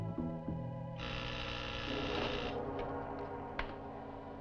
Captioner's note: door buzzing